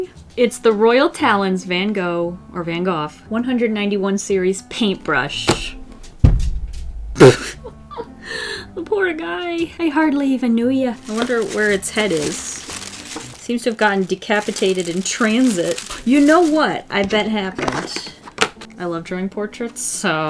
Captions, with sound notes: It's the Royal Talons Van Gogh or Van "Goth" 191 series paintbrush. [Thud] [Laughs] Poor guy. I hardly even knew ya! I wonder where its head is Seems have gotten decapitated in transit. You know what I bet happened. I love drawing portraits. So.